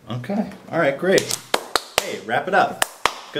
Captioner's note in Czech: Tleská